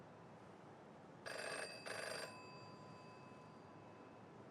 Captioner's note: phone rings